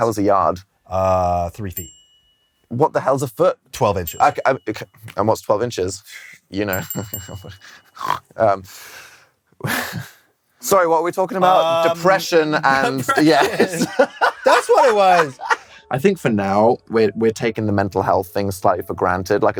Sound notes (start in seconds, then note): 6.7 hehehe; 7.9 snorts; 9.5 chuckles; 14.3 cackling